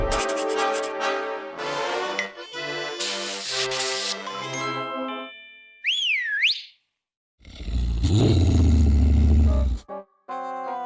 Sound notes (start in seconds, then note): 5.8 whistles; 7.4 growls